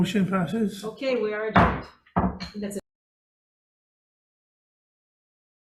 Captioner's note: gavel bangs